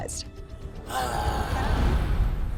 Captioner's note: sighs